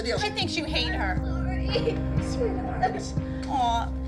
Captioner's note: sobs